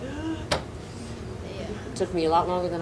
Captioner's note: gasps